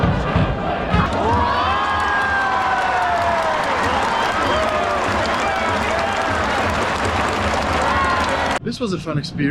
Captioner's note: music and cheering; cheering